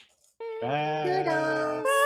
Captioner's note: humming